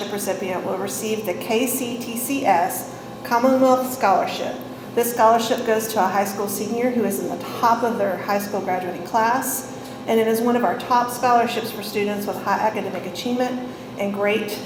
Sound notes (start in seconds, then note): none